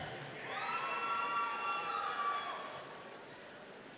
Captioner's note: audience cheering